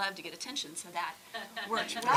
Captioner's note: audience laughing